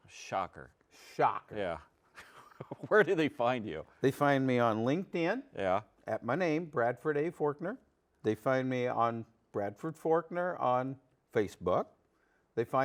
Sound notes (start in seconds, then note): 2.1 laughs